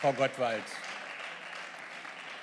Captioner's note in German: Beifall